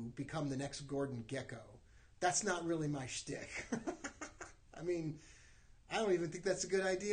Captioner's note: laughs